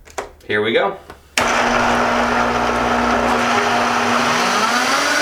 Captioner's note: whirring